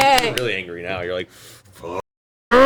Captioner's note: all cheer